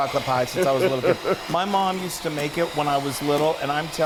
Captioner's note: laugh